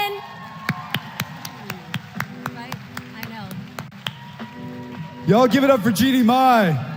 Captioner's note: applause